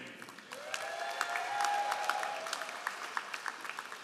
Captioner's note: all applauding